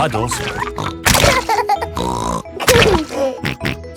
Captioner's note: laughs and snorts